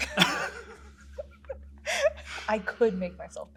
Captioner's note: laughs